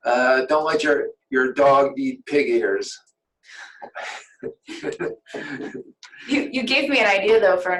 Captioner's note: laughter